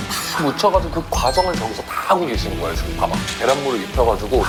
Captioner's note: frying